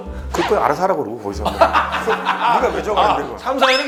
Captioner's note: hahahaha